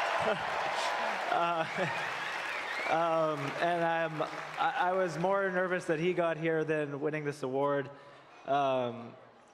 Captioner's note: applause